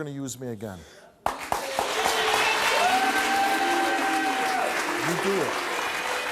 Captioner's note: audience clapping